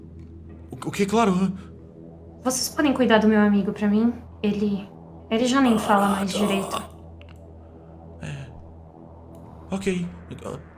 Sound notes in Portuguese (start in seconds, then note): 5.6 Gemido